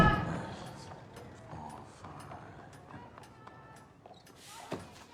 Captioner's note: voices and bell grow louder